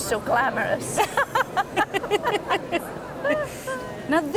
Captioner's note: both laugh